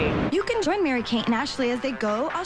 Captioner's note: voiceover